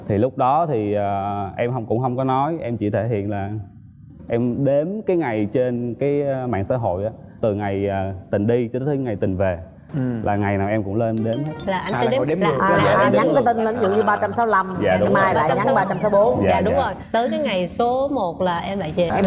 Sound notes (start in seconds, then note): none